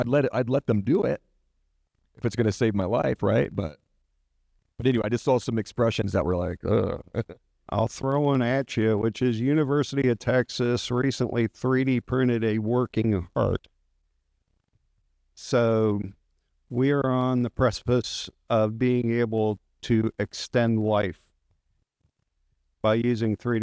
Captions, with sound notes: I'd let them do it, if it's gonna save my life, right, but... But anyway, I just saw some expressions that were like, "Ugh." (chuckles) I'll throw one at you, which is University of Texas recently 3D printed a working heart. So we are on the precipice of being able to extend life by using 3D printing,